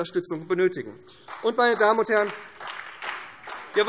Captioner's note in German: Beifall SPD